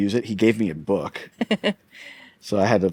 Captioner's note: laughs